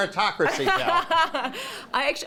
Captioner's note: laughter